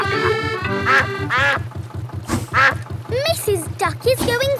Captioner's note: quacking